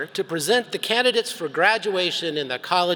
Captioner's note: none